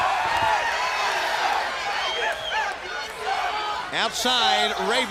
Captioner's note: crowd chatter